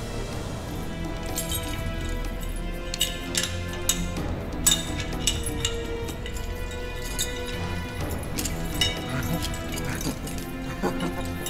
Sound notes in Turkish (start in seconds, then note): 2.9 Kilit açma sesi; 9.8 Vasilius gülme sesi